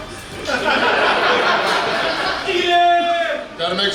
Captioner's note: hahaha